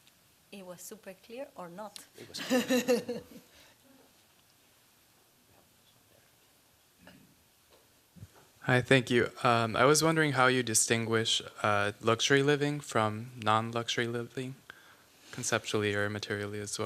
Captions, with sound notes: It was super clear or not. [LAUGHING] Hi. Thank you. I was wondering how you distinguish luxury living from non-luxury living conceptually or materially as